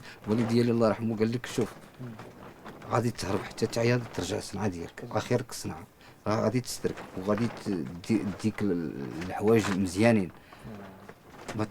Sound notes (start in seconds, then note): none